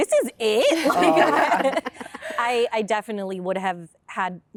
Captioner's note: laughter